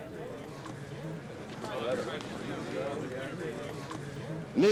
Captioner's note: indistinct chatter